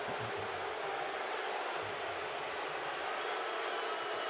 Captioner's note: crowd cheers